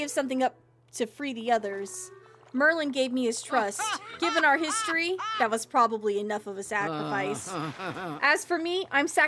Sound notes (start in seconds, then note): 3.4 Ursula Laughs; 6.9 Ursula Chuckles Darkly